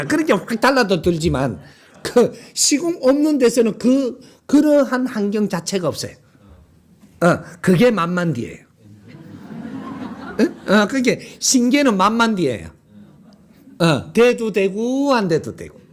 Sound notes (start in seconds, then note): 8.9 laughter